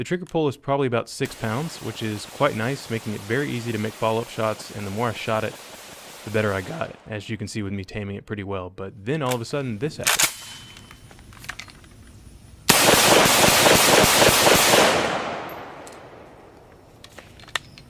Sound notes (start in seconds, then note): 10.0 cocks gun; 12.6 fires rapid successive shots